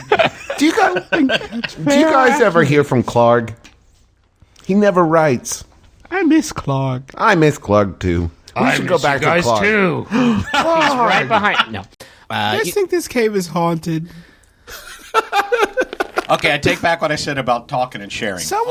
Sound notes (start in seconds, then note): 0.0 laughter; 12.0 gasp; 14.7 laughter